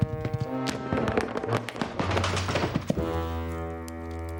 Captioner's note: thump; clattering